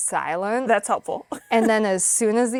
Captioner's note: chuckling